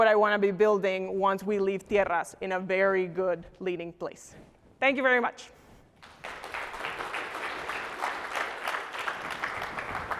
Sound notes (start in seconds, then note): 6.0 applause